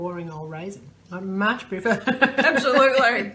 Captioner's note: laughs